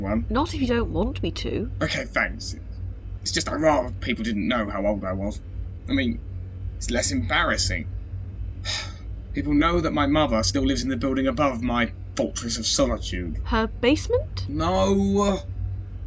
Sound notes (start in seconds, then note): 8.6 sigh